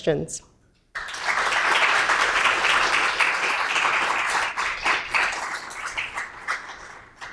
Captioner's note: applause